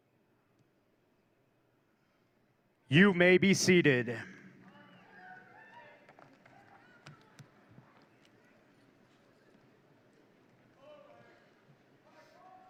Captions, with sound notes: You may be seated. (audience cheering in distance)